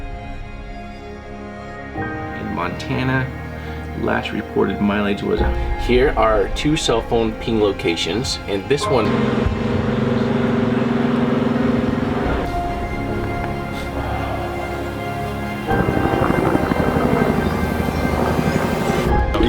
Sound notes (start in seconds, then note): 0.8 melancholy music; 10.9 motor loudly roars; 16.3 slow piano plays